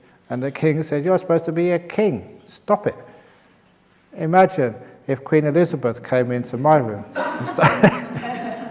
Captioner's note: laughter